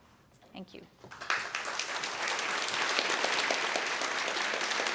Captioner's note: applause